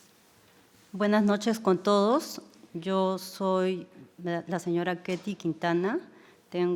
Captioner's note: speaking in foreign language